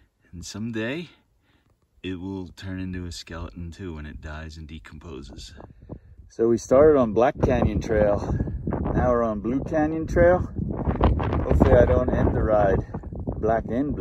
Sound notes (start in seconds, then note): 5.5 wind noise